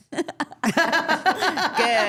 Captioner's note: all laughing